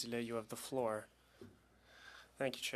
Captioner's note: speaking French